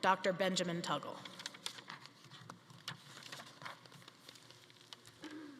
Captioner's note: papers rustling